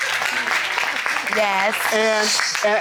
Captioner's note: audience applauding